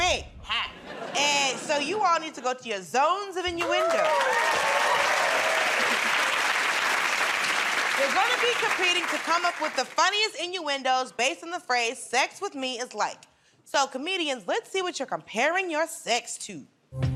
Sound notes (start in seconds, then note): 3.5 cheers and applause